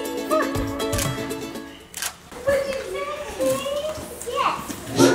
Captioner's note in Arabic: نقرات مصراع الكاميرا